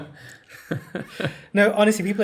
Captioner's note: laugh